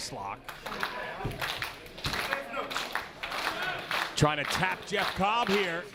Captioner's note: applause